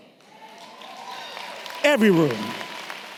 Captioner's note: audience clapping and cheering